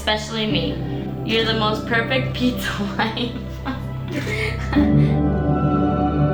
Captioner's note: laughing